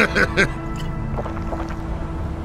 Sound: chuckles; swallowing noises

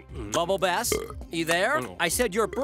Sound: chewing; Bubble Bass belching

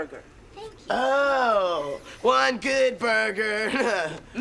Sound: chuckles

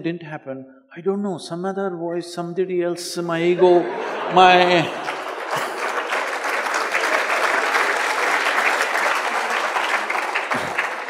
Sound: applause

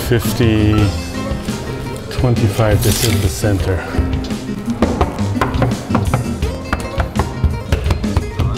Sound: knocks on wall

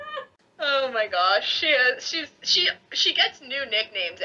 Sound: hysterical laughter

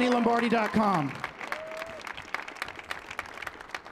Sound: cheering

